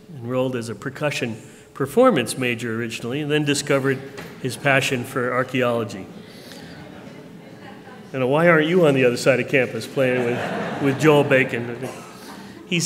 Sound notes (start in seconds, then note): 6.1 laughter